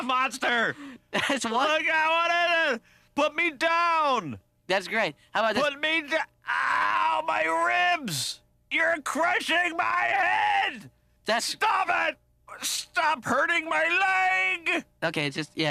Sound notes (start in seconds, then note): 6.4 groaning